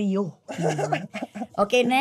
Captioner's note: chuckles